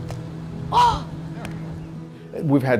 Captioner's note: ball thwacks